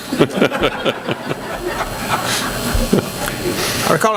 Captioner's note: laughing